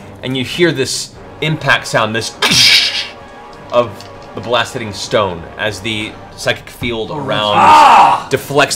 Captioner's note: crash